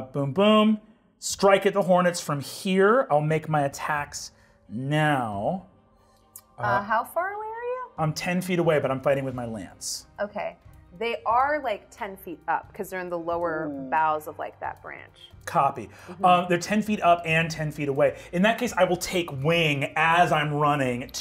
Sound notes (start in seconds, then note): none